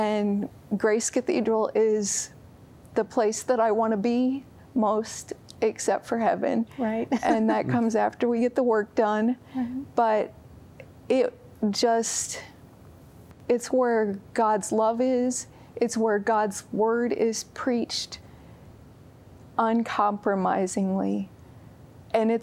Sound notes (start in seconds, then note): 6.9 giggle